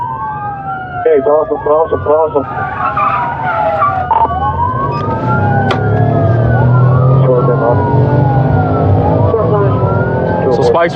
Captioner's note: radio ctter